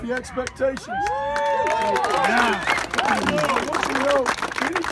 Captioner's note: applause & cheers